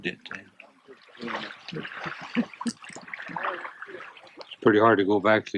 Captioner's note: laughter